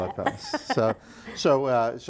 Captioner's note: chuckling